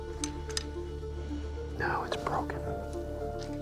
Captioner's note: whispering